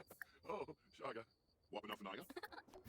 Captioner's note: sims talking